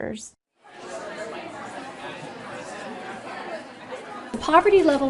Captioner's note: classroom chatter